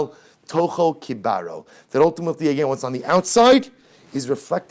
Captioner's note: Hebrew